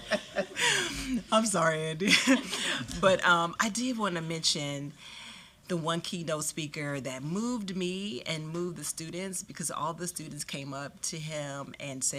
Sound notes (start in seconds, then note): 0.0 laughter